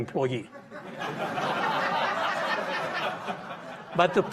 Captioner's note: audience laughing